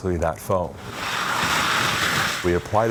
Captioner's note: hose spraying foam